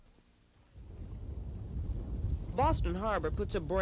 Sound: wind whirring

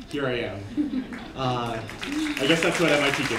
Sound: applause

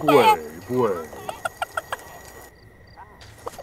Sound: cock laughes

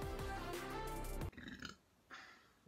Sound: medium burp

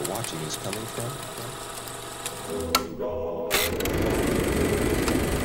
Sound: projector clicking

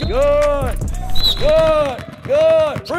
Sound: whistle

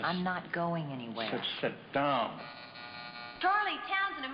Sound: door buzzing

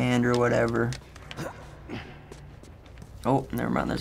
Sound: Joel grunts

